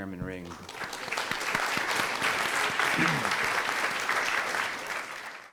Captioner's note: audience applauding